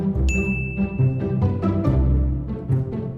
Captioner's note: dinging